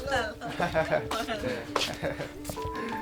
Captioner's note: laughs